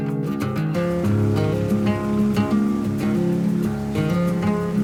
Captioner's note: water flowing